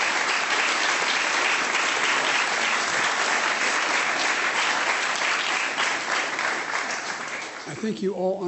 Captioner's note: applause